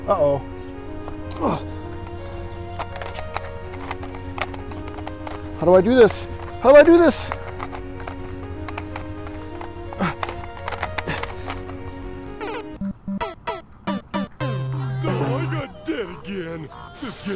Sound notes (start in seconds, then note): 1.3 grunts; 10.0 grunts; 11.0 struggle noises